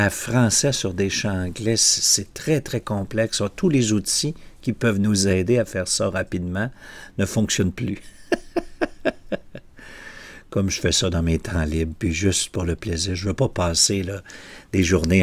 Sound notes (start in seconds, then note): 8.0 laughter